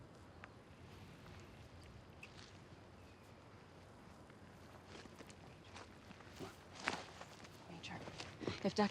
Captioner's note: footstep